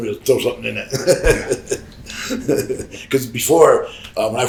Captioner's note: Sabu chuckles